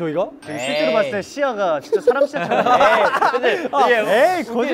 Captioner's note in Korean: ㅎㅎㅎㅎ